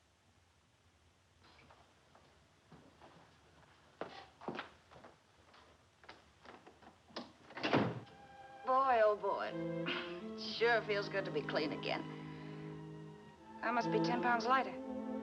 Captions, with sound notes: Boy, oh, boy. [sighs] It sure feels good to be clean again. I must be ten pounds lighter.